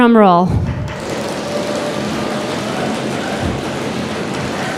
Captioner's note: rhythmic banging